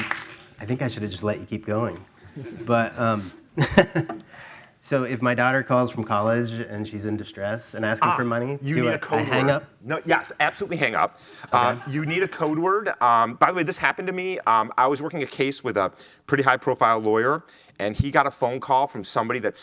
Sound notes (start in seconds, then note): 3.5 chuckles